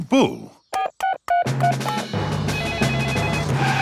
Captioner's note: beeping; phone ringing